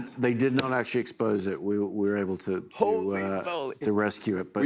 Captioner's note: normal accent